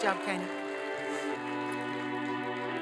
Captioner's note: applause and cheering